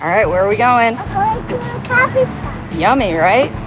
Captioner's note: child chattering